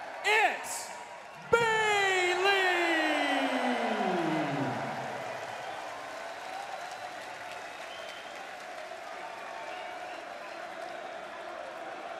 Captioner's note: crowd cheering